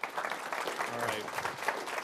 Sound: applause

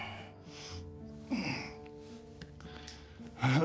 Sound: sniffs, grunts

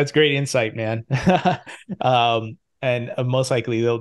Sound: chuckling

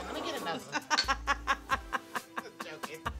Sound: laughing

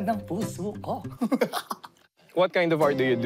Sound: laughs

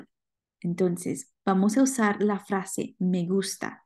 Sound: speaking spanish

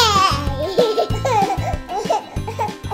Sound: children laughing

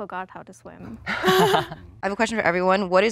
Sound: contestants laughing

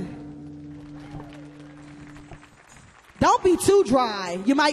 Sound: audience applauds

